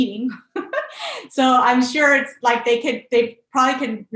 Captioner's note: laughs